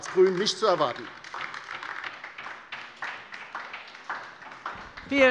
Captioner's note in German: Beifall bei der LINKEN